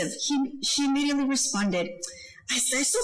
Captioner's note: speaking foreign language